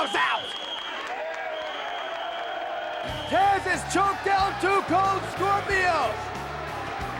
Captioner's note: applause